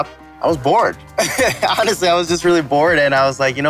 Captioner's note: chuckles